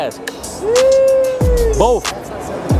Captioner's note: man squealing